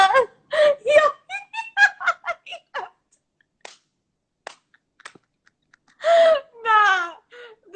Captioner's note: laughing